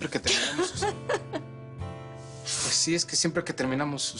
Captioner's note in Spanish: Risas